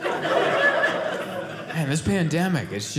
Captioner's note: audience laughing